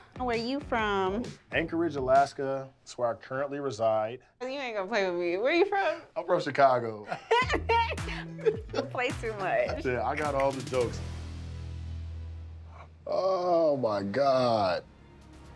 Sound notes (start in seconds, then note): 7.0 both laugh in unison